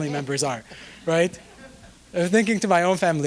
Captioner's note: audience chuckling